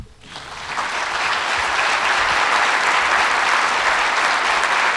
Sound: audience applauds

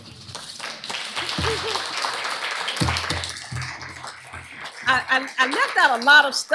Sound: applause

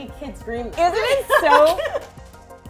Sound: laughing

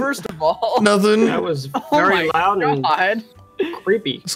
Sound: laughing

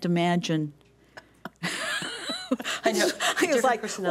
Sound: laughing

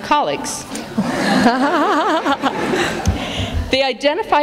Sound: laughter

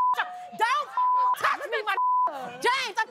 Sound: beep

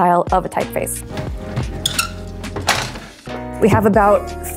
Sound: squeak of drawers closing

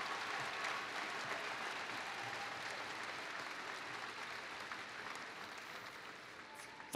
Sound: applause

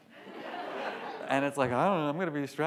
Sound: audience laughs

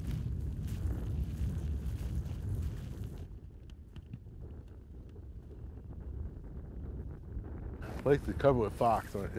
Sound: wind gusting

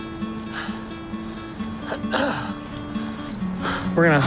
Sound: huffing _ coughs

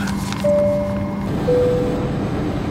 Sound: dinging

